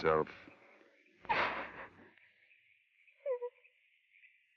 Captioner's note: Laura sobs